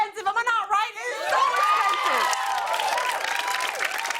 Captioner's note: cheers and applause